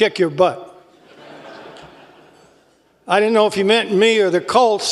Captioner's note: laugh